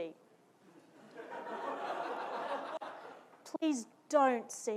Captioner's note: audience laughing